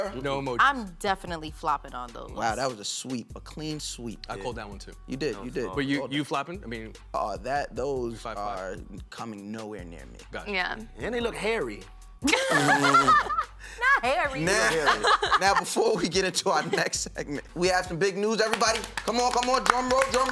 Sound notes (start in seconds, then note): 12.2 laughter